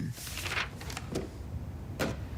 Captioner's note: door closes